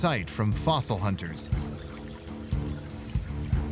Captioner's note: stream gurgling